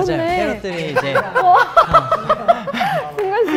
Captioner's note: ha ha ha